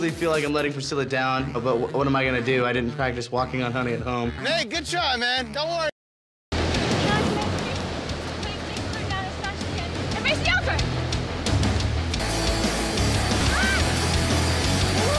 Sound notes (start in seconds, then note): 6.5 waves crashing; 12.0 intense music